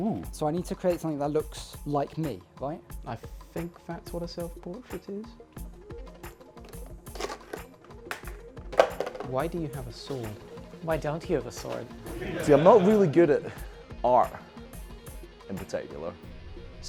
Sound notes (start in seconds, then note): 12.1 laughter